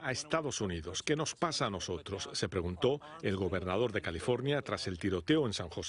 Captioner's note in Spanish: habla en ingés